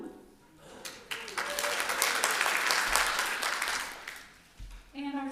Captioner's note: applause